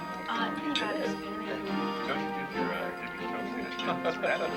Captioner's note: chattering